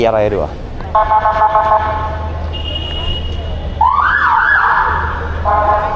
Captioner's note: police car siren sound